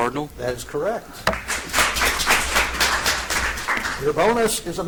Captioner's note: audience applauds